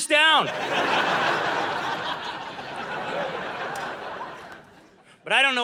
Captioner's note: audience laughing